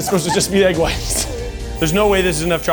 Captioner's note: laughs